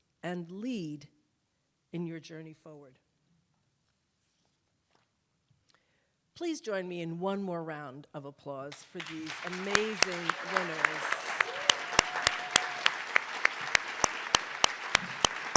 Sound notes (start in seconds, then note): 11.6 attendees applauding